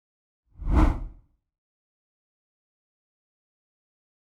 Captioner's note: air whooshing